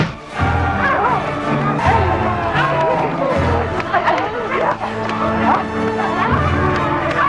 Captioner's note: women grunting; Nepakin screaming